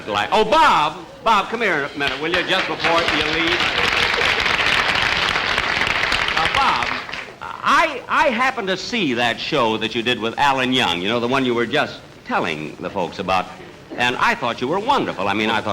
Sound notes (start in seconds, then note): 1.9 audience Applauding